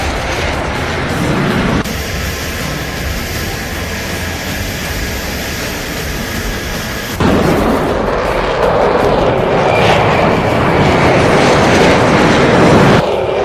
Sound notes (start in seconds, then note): 9.7 plane engine roaring